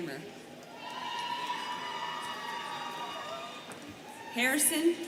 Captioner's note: students cheering